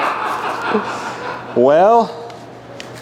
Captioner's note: laughter